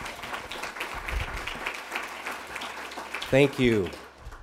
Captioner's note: applause